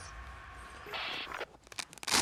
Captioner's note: radio bleep